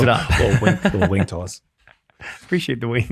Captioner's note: laughs